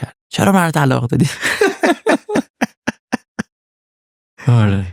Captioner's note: laughs